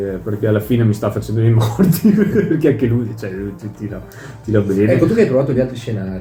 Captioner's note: laughter